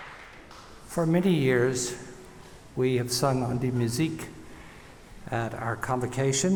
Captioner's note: speaking french